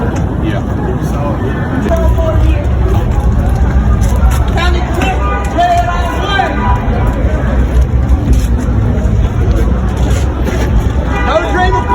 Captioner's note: Confederate counter-protester yelling obscene things